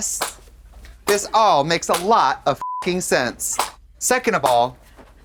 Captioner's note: beep